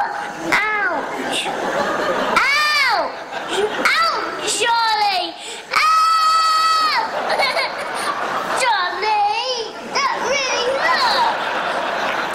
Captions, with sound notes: Ouch. Ouch! Ouch, Charlie! Ow! [cries] Charlie! That really hurt!